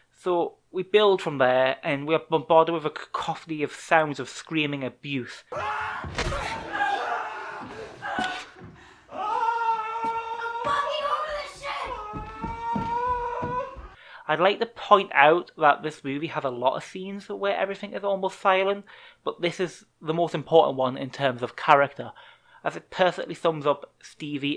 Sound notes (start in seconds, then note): 9.0 Ian screams